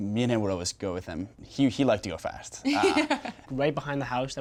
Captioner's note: laughs